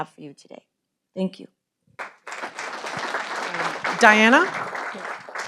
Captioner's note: audience applauding